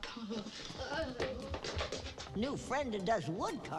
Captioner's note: boys gurgling nervously